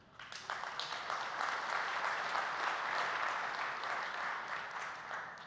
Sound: applause

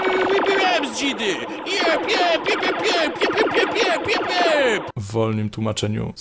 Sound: more dignified cosmic battle sounds

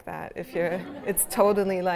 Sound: laughter

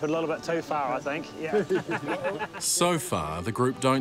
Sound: laughter

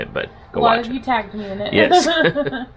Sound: laughs

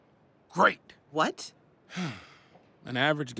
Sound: sighs

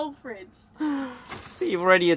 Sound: sighing

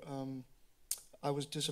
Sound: clicks tongue

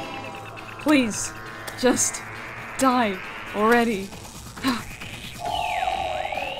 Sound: exhale

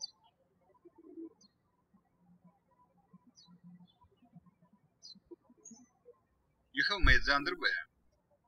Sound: birds chirping

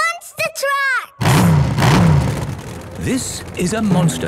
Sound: engines revving

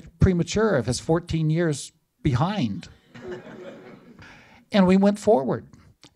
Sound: laughter

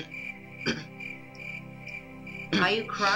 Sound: coughing

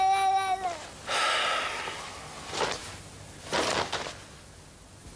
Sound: Charlie sighing

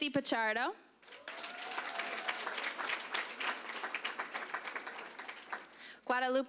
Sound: applause

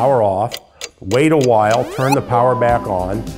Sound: clock ticking

